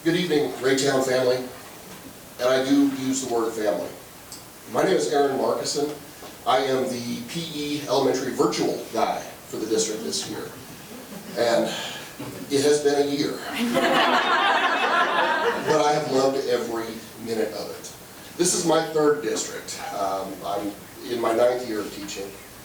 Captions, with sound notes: - Good evening, Raytown family, and I do use the word family. My name is Aaron Marcuson. I am the PE elementary virtual guy for the district this year and it has been a year (members laughing) but I have loved every minute of it. This is my third district. I'm in my ninth year of teaching.